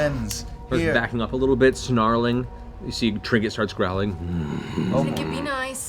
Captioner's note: growls